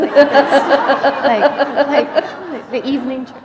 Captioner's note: laughter